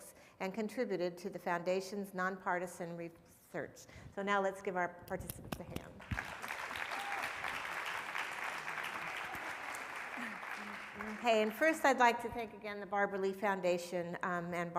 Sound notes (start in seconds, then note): 5.9 applauds; 6.0 audience applauding